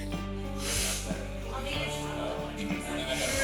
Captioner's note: sniffs